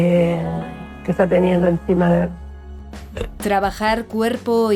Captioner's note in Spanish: eructa